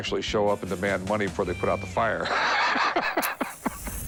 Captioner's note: laughs